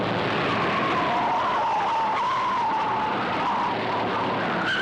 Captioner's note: tires screeching